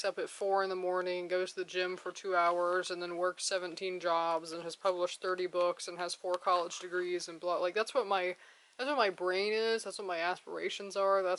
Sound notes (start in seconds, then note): none